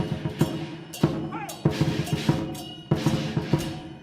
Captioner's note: man exclaiming; upbeat music continues